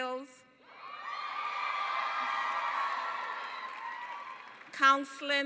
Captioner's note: cheering